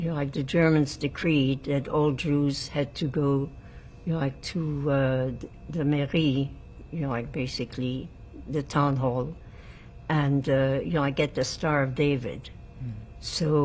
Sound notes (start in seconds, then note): 5.0 french